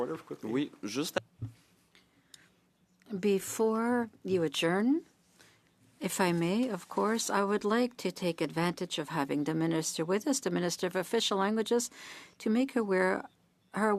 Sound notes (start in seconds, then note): 5.3 speaking French